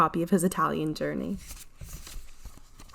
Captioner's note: pages flipping